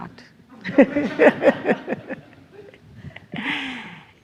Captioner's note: everyone laughs